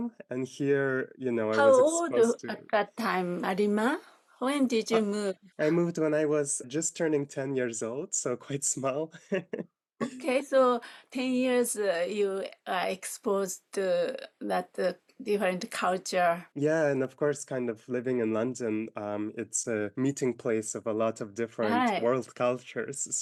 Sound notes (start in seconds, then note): 9.0 laughing